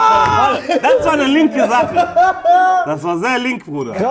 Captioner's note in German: Lachen